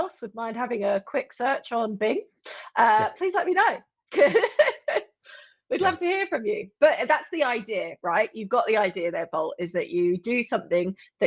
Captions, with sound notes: would mind having a quick search on Bing. Please let me know. (laughs) We'd love to hear from you. But that's the idea, right? You've got the idea there, Bolt, is that you do something